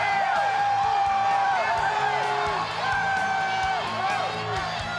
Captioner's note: crowd cheering